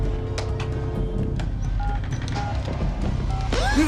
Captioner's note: dialing; gasping; man grunting